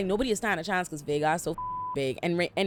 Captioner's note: beep